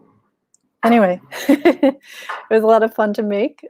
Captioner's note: laughs